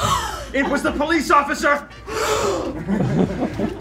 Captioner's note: everyone gasps